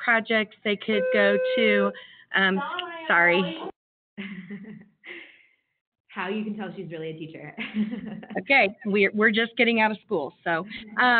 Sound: bell ringing

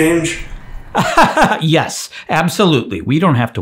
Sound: laughs

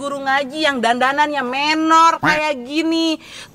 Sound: laughs

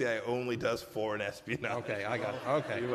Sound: laughter

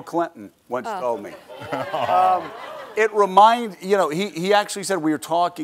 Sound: laughter

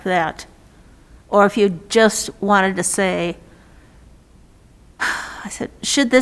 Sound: sighs

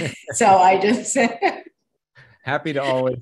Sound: speakers laughing

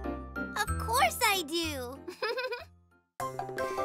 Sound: chuckling

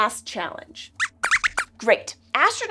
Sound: squeaks squeaks

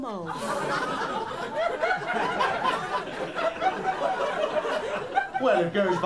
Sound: laughter

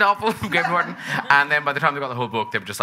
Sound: audience chuckling

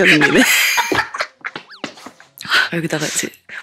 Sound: laughing

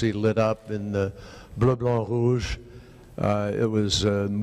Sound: speaking in foreign language

